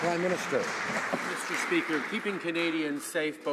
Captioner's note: some Applause